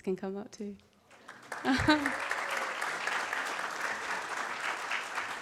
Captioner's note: audience claps